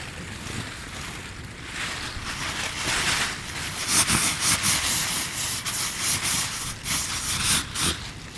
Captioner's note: rustling sound